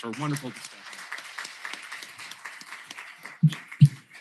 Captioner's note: applause